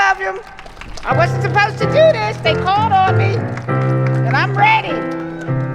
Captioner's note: applause and ♬♬ piano ♬♬